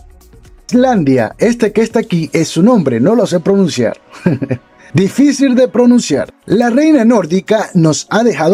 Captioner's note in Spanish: risas